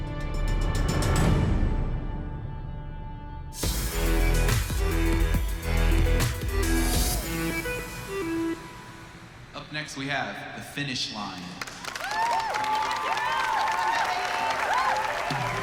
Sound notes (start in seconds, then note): 11.6 cheering and applause